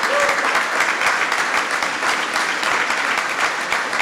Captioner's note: applause